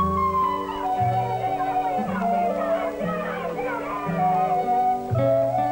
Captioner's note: children chattering